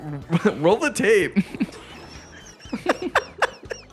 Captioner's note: laughs